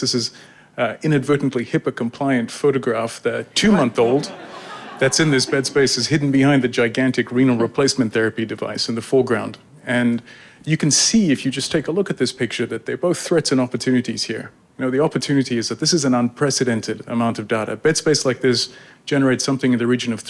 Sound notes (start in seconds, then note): 3.6 audience laughing